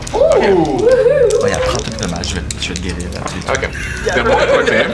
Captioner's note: whispering